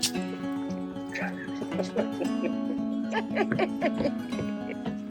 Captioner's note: laughing